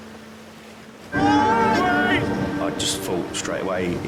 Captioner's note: man yelling